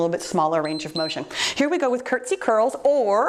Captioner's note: timer beeps